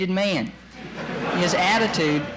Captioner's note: laughter in courtroom